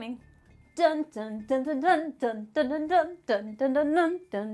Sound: humming

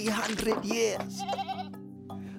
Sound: bleating

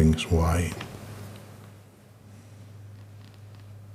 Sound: silence

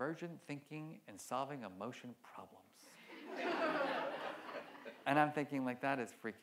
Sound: audience laughs

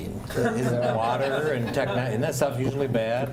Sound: laughter

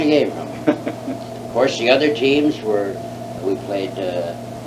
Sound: laughs

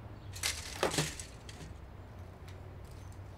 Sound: birds chirping; shades clattering

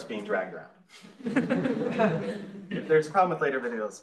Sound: laughs

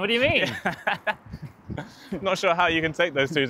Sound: laughing

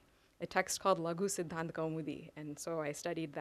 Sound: non-english

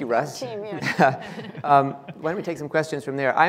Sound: laughing

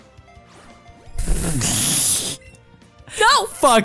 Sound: both Laughing

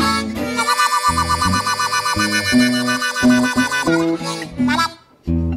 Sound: heavy wobbling

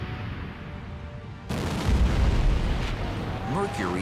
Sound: explosion

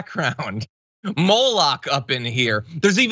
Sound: laugh

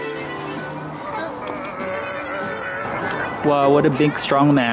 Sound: groaning

